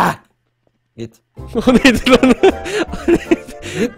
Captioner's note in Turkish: Gülerek